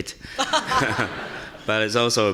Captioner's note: audience laughing